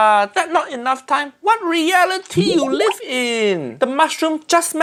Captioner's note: water burbling